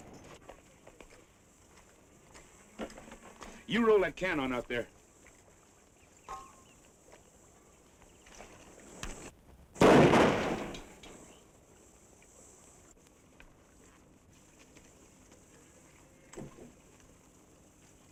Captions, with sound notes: You roll that can on out there. (gun fires)